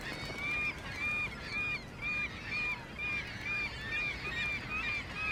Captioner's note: seagulls squawk